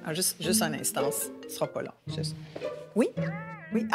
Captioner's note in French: sonnerie de portable